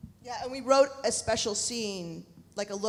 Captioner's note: none